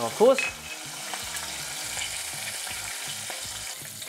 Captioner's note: sizzling sound